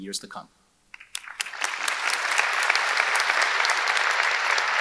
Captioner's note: audience claps